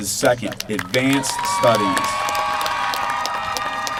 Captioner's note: applause